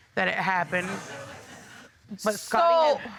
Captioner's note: audience laughing